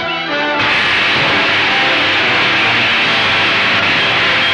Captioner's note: electricity zapping